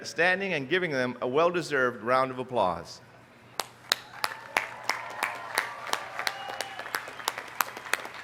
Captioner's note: applause